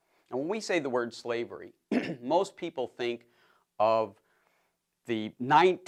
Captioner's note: cough